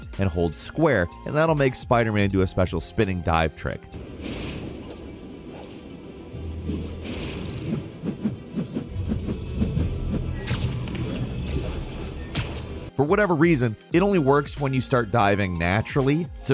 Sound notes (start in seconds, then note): 4.0 air whooshing; 4.2 dramatic music